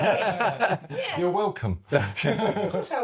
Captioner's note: laughter